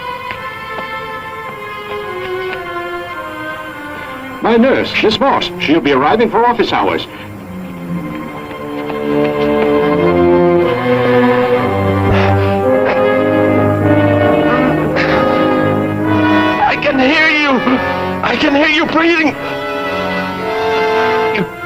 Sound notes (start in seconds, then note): 4.4 brakes screeching; 11.6 worrying music; 13.8 moans